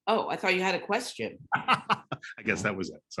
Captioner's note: laughing